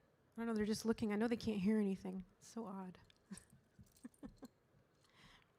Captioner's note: laughs